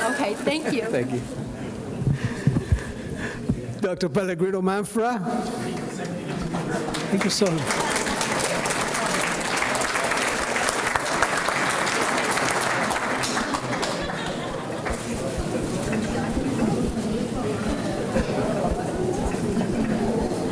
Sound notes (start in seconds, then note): 6.8 applause